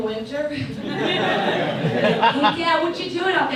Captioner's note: audience laughs